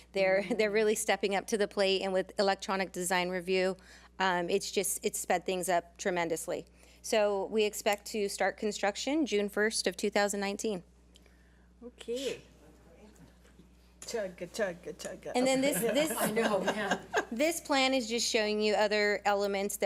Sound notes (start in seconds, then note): 15.4 board laughs